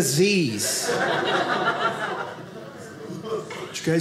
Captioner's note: audience laughing